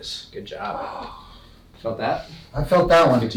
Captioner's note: patient groans